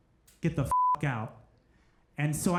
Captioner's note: beep